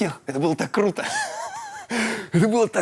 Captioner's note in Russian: смеется